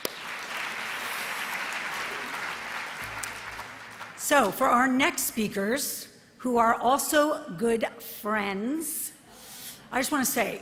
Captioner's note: applause